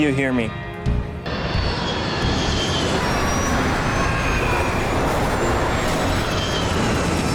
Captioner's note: dramatic music; wind whining